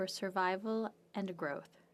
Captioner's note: speaking French